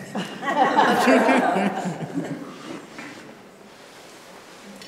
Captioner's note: laughter